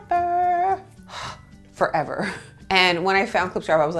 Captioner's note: sighs